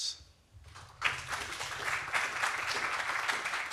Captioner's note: applause